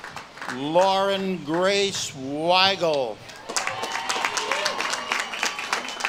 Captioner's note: audience claps and cheers